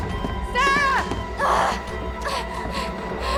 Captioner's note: Sarah groans